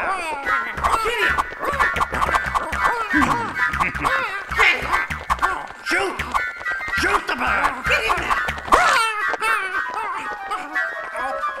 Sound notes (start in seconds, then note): 2.2 squawking; 8.4 squawking